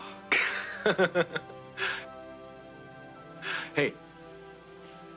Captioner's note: Casey laughing